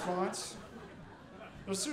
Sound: audience laughing

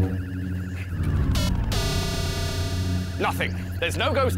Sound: buzz!

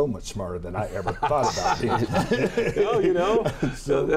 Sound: laughs

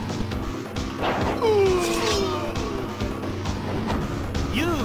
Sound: echo

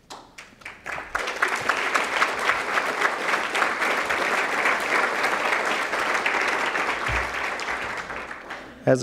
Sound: applause

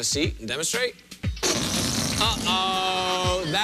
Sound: farting noise

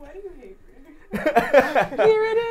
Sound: laughs

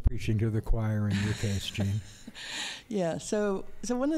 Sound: laughter

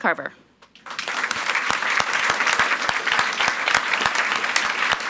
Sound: audience applauds

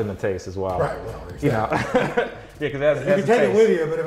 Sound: laughs

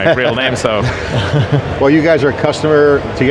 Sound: group laughing

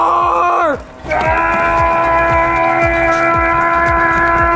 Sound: excited yelling

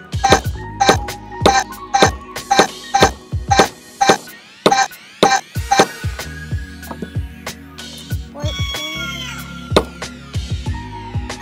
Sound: buzzer sound effects

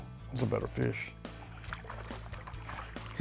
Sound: upbeat music; water splashes

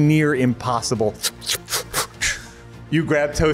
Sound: amazing Dexterity Sounds Activated

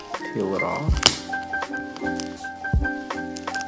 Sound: peeling noises

